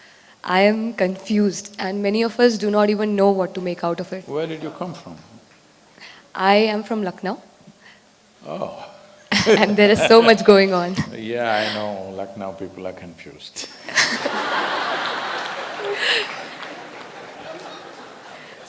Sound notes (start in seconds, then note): 9.2 laughs; 17.2 laughter